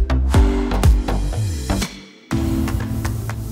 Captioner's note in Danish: Bifald